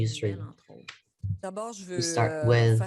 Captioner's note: speaks French